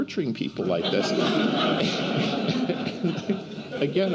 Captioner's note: laughter